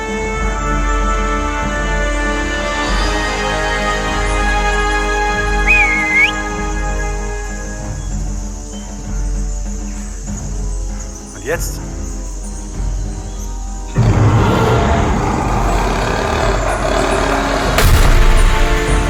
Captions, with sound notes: (whistles) And now what? (dinosaur roars)